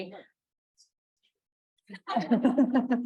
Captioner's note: speaking faintly; chuckling